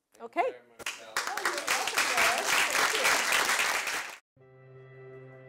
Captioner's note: applause